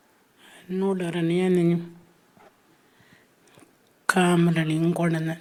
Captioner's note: speaking Anmatyerr